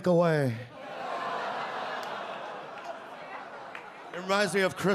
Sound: audience groan and laugh

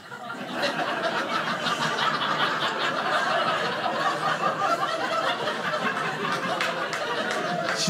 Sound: audience laughing

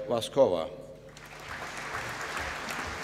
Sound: applause

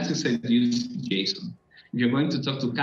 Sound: feedback

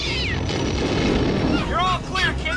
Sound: engines roaring

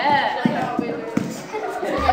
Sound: laughter

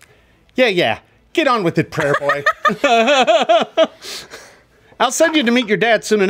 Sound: laughs

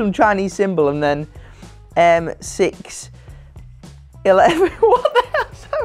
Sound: laughing

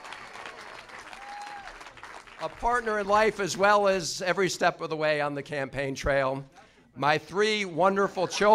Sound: applause

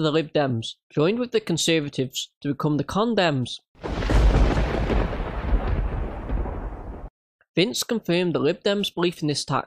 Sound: sound effect

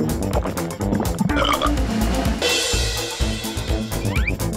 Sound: burping

